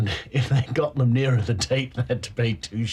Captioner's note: laughter